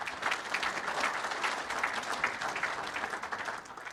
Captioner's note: audience applause